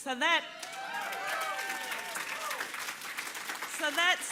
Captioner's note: cheering and applause